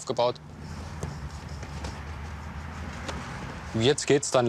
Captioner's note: distant traffic noise